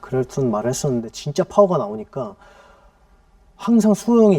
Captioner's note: deep breath